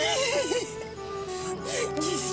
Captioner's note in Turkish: Ağlıyor